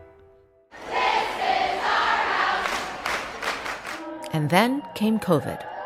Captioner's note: chanting